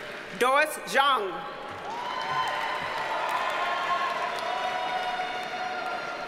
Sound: audience cheers and applauds

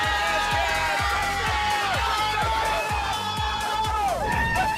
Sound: cheering

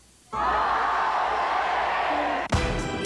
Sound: audience, very loud; group singing

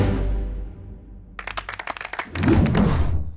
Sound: clapping

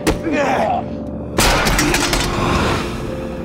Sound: clanging

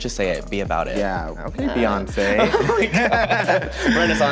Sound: laughs

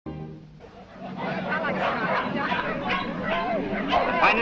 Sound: background: large crowd sound

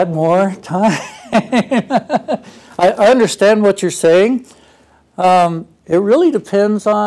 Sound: laugh

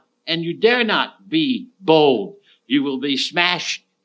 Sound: none

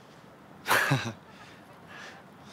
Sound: heh

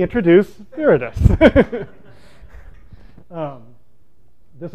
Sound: laughter

